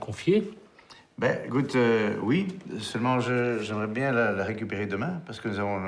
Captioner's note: speaking in foreign language